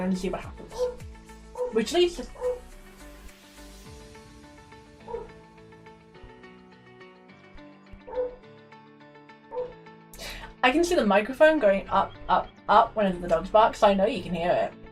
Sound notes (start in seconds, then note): 2.6 next door's dogs barking off screen